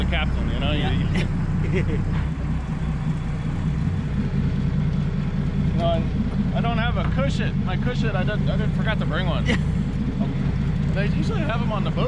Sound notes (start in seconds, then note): 1.6 laughing; 2.1 boat engine idling; 11.8 chuckling